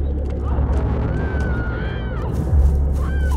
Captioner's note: screaming